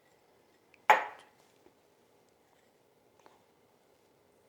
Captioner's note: cup clicking